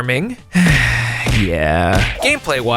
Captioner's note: sigh